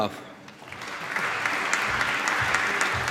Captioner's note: applause